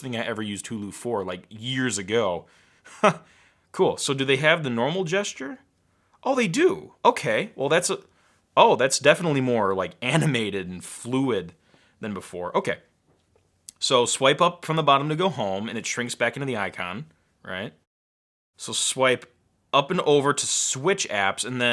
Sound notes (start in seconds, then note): 2.9 laughs